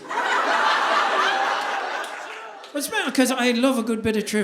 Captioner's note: audience laughing